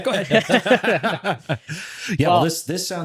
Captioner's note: both laughing